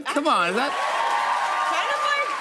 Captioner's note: cheers and applause